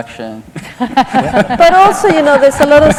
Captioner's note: laughter